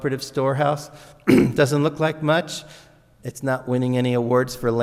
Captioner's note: clears throat